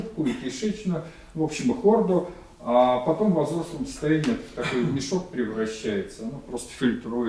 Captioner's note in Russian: откашливается